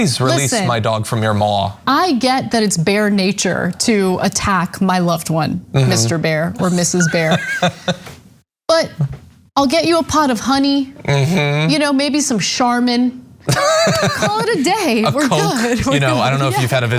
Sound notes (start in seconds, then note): 13.4 laugh